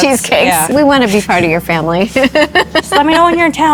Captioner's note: laughing